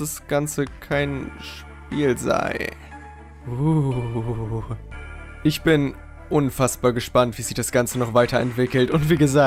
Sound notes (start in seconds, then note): 3.4 spooky scary sound